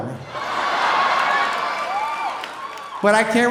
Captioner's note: audience cheering